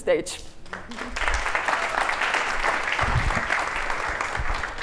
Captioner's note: applause